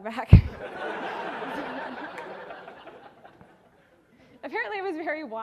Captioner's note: audience laughing